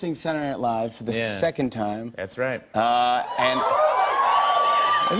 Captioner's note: cheers and applause